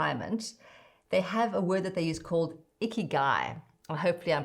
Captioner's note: non-english speech